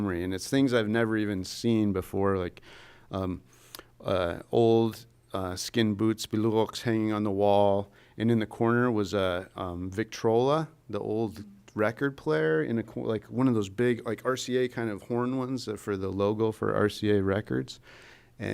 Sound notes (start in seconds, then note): 4.4 non-english speech